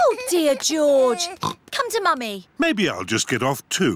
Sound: oinks

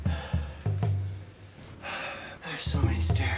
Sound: heavy breathing

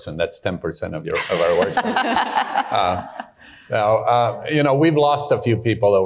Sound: audience laughing

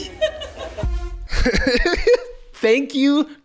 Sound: laughs

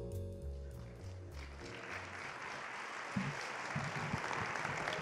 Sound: audience applauding

